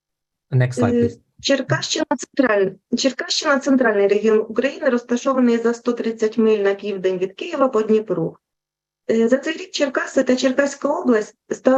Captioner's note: foreign Language Spoken